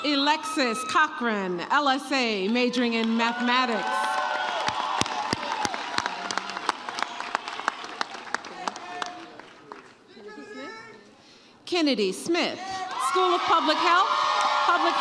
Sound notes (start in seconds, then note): 4.6 audience cheers